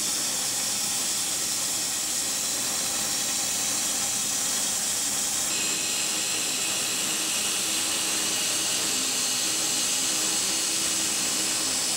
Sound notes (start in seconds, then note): 2.2 saw whirring; 9.2 saw whirring